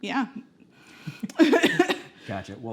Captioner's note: laughing